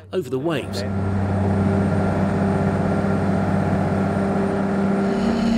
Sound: engine roaring

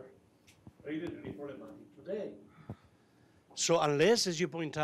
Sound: speaking faintly

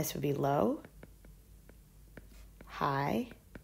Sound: digital pen tapping noise

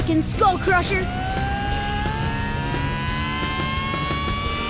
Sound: engines whining

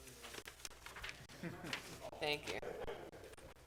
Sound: murmurs

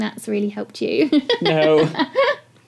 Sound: laugh

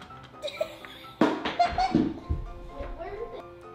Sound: laughing

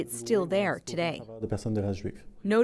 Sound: speaking French

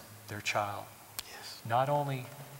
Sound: whispering

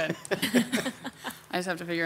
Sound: people chuckle

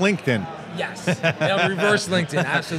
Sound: interviewer laughs

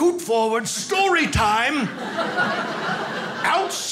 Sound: audience laughing

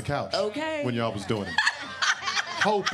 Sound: laughs

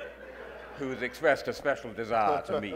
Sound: audience laughing

